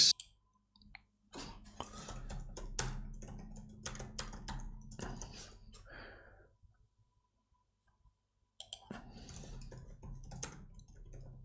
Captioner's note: silence; typing